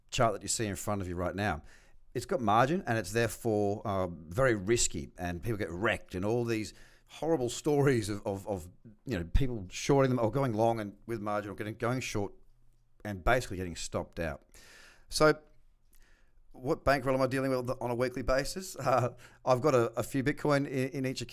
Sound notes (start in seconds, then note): 17.4 chuckles